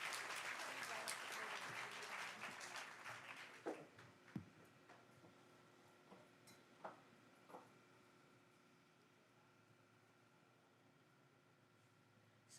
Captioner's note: applause